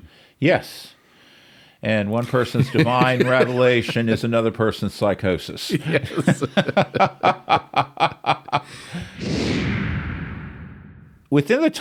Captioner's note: laughter